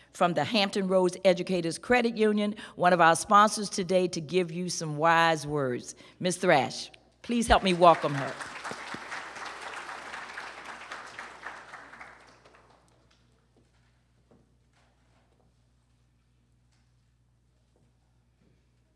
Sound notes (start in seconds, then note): 7.3 applause